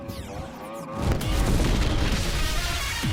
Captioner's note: explosion